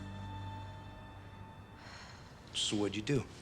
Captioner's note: sighs